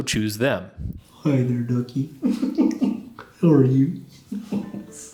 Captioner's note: chuckles